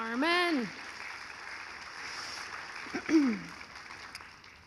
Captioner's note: audience applauding